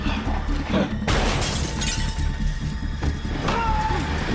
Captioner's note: gun fires, glass shatters